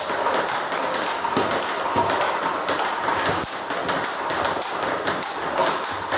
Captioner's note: ball ping pong hitting continues